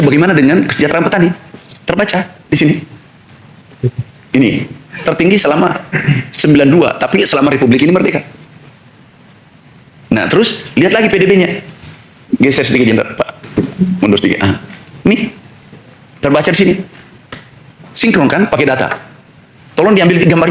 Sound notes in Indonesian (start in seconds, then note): 5.9 berdehem